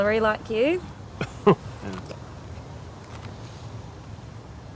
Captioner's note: scoffs